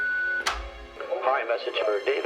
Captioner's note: on answering machine